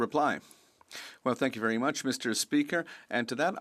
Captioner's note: speaking French